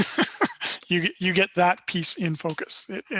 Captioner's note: laughter